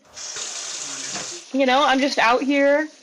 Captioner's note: water rushing